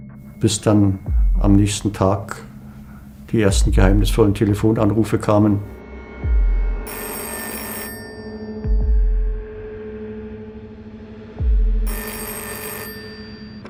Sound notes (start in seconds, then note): 6.8 phone ringing; 11.8 phone ringing